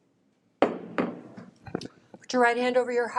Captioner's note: gavel knocking